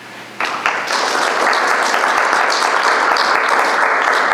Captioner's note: audience clapping